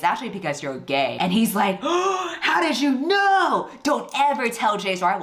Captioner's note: gasps